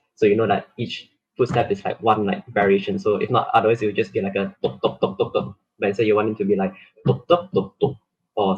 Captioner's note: footsteps sound